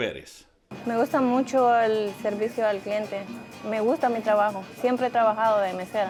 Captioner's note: speaking in Spanish